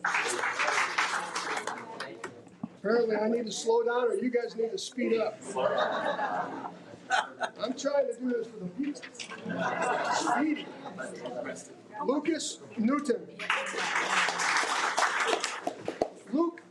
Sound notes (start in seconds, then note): 0.0 audience applauding; 5.5 audience chuckling; 13.4 audience applauding